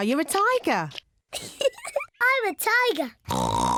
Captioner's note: giggles; oinks